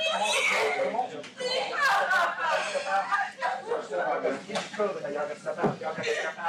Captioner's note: indistinct chatter; crying loudly